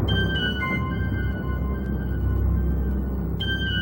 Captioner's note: thunder rumbling